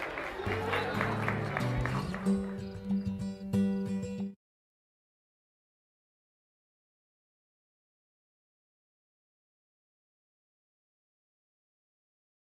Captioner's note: cheers and applause